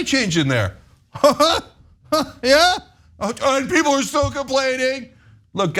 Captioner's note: laugh